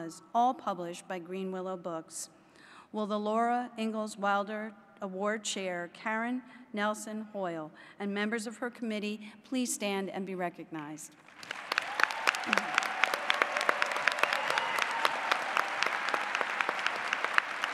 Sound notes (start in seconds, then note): 14.7 applause